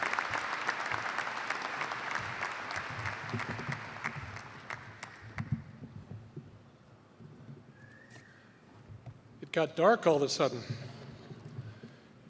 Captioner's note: applause